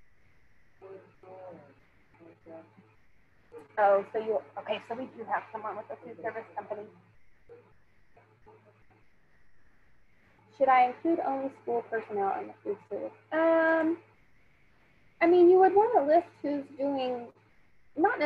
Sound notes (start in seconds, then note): 1.1 student speaking faintly; 8.0 student speaking faintly